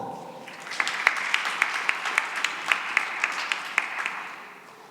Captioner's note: applause